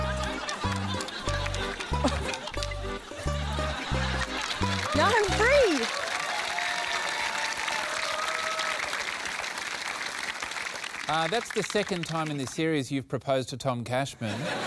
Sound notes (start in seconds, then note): 5.9 cheering, applause